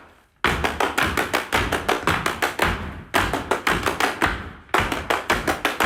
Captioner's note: energetic hand claps and feet stomps